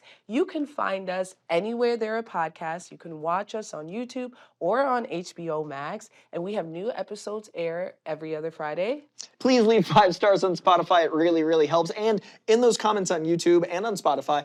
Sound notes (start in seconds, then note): none